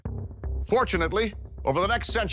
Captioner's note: none